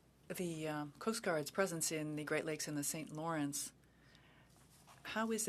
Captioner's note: speaking French